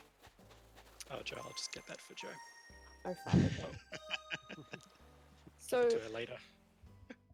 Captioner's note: laughing